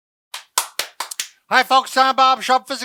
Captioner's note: clapping